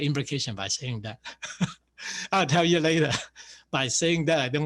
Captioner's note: laughs